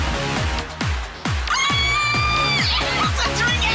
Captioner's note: squealing